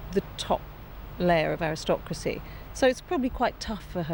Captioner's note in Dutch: none